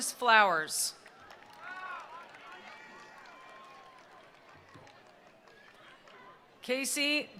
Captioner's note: attendees applauding; attendees cheering